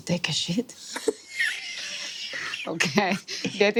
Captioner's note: players wheeze